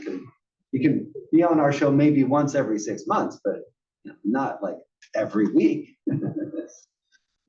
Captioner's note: laugh